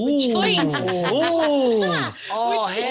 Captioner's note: everyone laughs